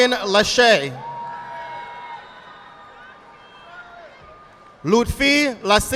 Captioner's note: audience applauding